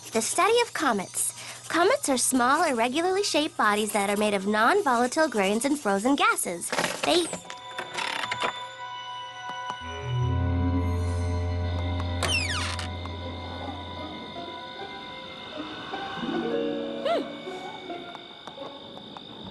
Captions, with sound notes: "The study of comets. "Comets are small, irregularly shaped bodies "That are made of nonvolatile grains and frozen gases. [ Creaking ] they --" [ Hinges creak ] Hmm.